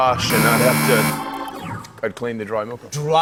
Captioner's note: buzzer